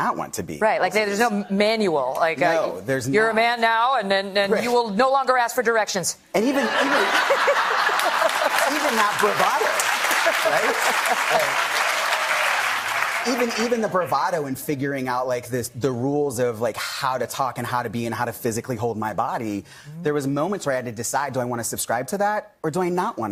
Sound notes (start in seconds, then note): 12.2 laughter